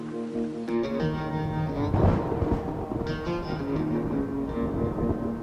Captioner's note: thunder rumbling